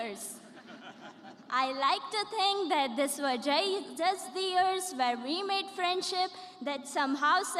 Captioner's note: laughter